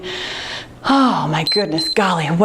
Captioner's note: timer beeps